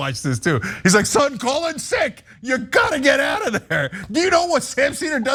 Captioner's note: laugh